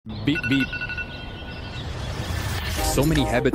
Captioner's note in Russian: бип-бип